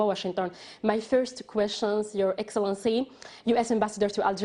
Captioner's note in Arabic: تتحدث الإنجليزية